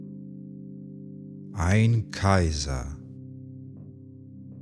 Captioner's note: german